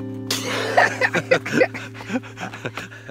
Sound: laughs

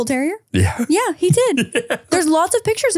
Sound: laughs

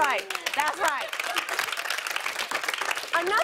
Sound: applause

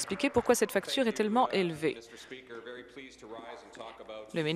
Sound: applause

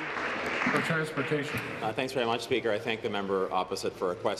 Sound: applause

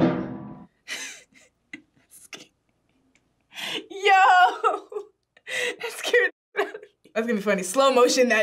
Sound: laughs

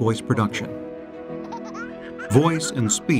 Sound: toddler laughing

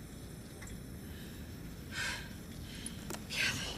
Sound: gasps

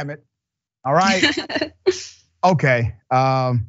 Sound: laugh

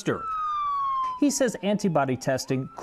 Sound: ambulance sirens ringing

